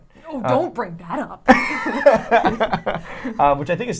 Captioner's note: laughs